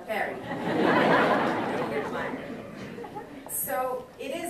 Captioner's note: audience laughing